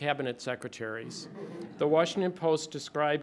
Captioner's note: light laughter